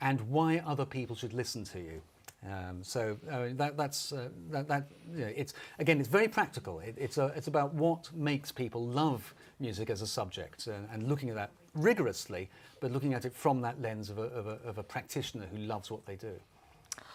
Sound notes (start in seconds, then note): none